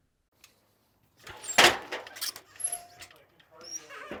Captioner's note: metal squeaking